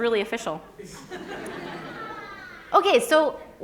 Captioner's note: laughter